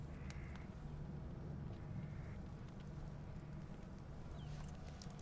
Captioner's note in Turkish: none